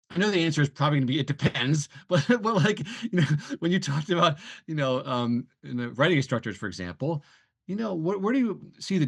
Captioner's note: laughs